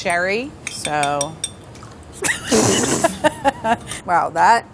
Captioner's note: laughter